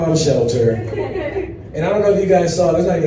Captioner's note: audience laughs